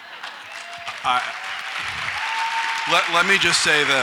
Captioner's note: audience applauds